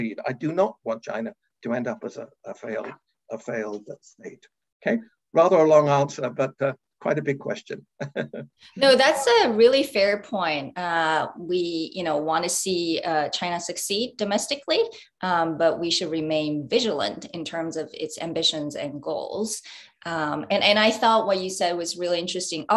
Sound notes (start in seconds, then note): 8.0 chuckles